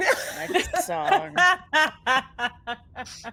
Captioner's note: group laughs